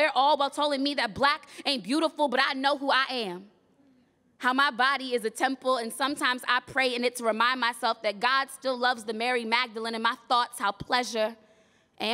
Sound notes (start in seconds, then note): none